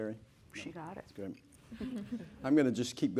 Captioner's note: laughter